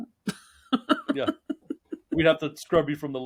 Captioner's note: laughing